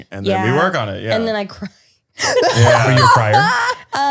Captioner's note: laughter